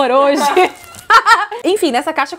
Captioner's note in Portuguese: risos